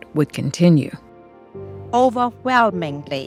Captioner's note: soundbite of archived recording